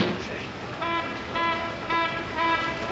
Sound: klaxon

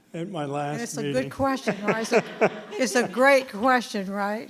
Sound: both chuckling

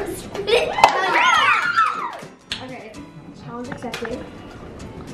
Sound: all cheering

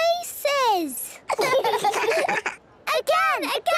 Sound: children laughing

